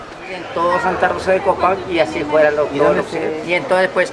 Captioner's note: in Spanish